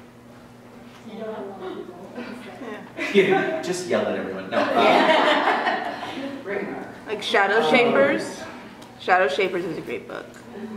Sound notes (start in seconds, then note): 4.5 laughter